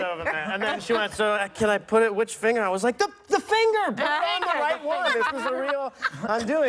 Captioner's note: laughter